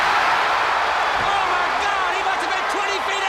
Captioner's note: crowd cheering